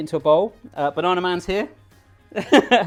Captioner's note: laughs